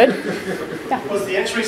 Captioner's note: laughter